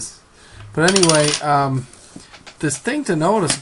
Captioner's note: quarter clinking